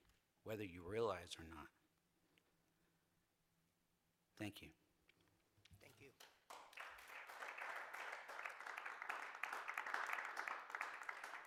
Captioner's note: applause